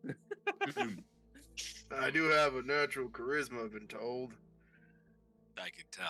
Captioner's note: laughing